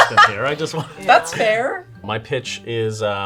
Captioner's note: laughing